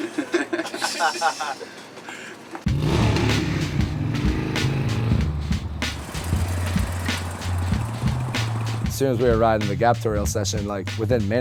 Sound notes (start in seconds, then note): 0.0 laughter; 2.6 motorcycle revving